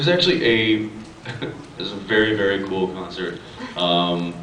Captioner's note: laughs